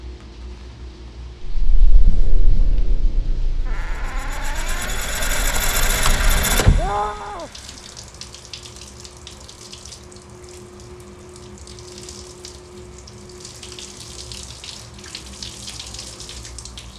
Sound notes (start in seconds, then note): 1.5 ominous music; 2.3 door creak; 3.6 suspenseful music; 6.5 boyfriend screams